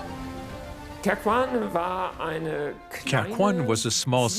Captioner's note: speaking in foreign language